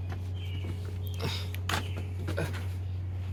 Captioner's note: gasp